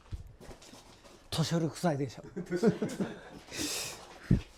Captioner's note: laughs